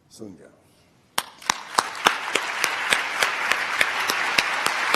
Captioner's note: applause